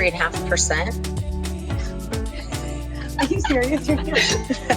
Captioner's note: laughs